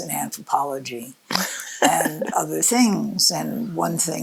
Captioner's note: laughs